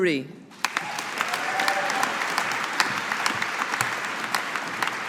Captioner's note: audience applauding